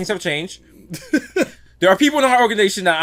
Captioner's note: laughs